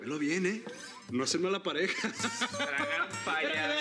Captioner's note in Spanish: carcajadas